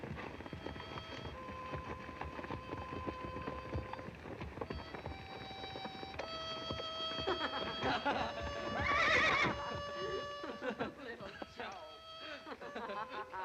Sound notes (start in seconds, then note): 3.2 harmonica playing slow tune in distance; 7.2 Little Joe and Lotta laughing